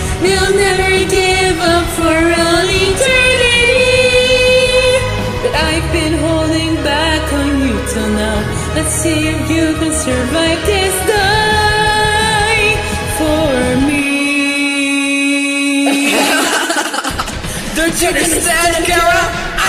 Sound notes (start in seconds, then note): 15.8 laughter